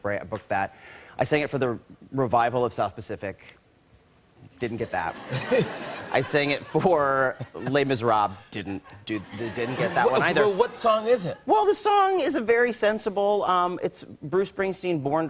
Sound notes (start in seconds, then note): 4.7 laughter